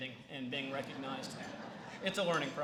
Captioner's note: laughter